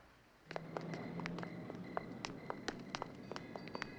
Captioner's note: crickets chirping